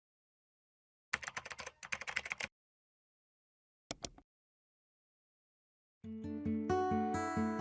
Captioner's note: keyboard keys clicking; mouse clicking; light music